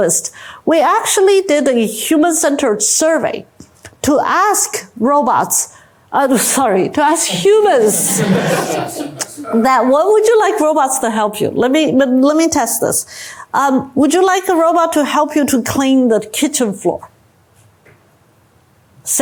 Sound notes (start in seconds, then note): 7.4 laughter